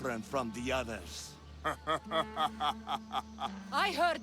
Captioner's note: laughs